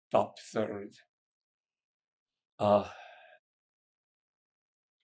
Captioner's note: pauses 6 seconds